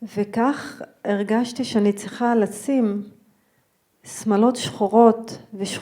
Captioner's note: speaking in foreign language